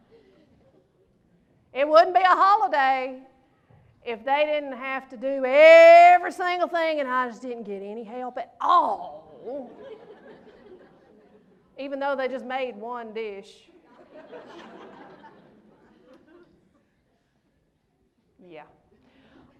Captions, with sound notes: It wouldn't be a holiday if they didn't have to do every single thing and I just didn't get any help at all! Even though they just made one dish. (laughter) Yeah.